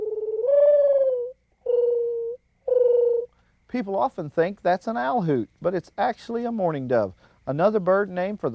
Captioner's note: bird call